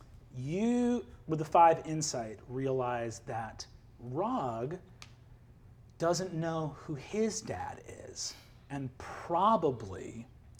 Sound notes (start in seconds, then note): none